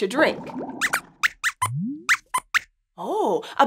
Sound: squeaks squeaks

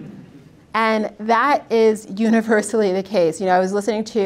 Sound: audience laughs; laughs

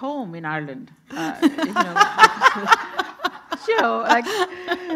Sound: everyone laughing

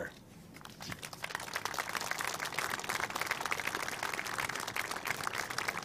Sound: audience applauding

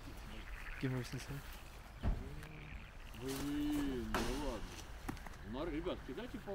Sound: men speaking in foreign language

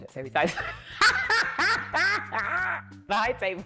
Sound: laughs

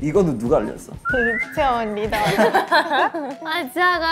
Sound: laughs

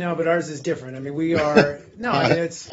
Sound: laughter

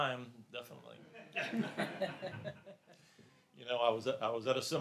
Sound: laughs

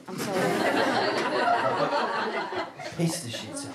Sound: audience laughter

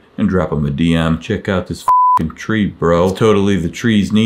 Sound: beep

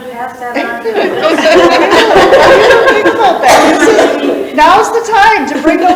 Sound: participants laugh

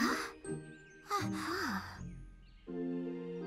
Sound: both exclaim

